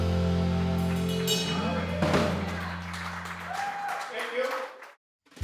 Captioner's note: audience clapping and cheering